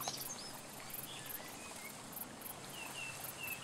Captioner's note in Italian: Suoni della natura